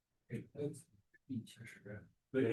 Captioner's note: speaking Chinese